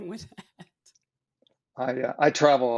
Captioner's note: laughs